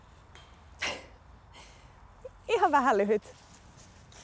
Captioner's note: laughs